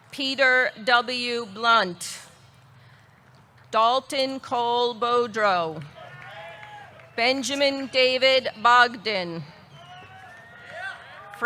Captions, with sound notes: Peter W. Blunt. Dalton Cole Bodreau. (audience cheering) (audience clapping) Benjamin David Bogdan. (audience cheering)